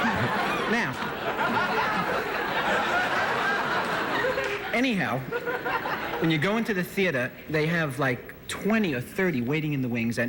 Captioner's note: laughter